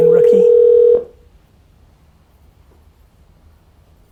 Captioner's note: phone rings